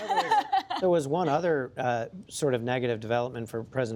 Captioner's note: laughter